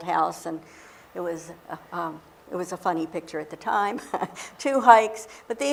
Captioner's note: laughs